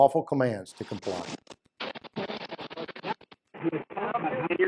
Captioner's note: fuzzy audio feedback